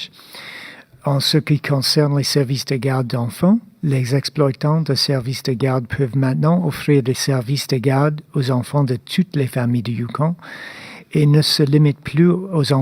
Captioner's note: speaking French